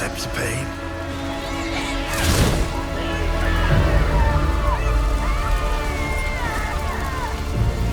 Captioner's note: yell; cries